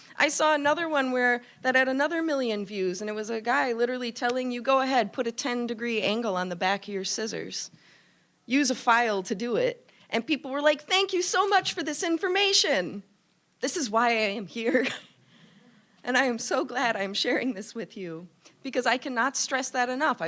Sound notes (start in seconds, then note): 14.7 chuckling